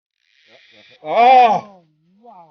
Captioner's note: reel screaming